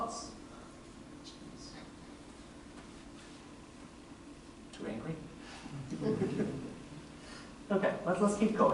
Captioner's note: laughter